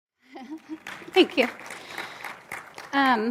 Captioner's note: applause